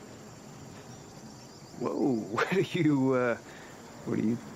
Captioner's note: chuckles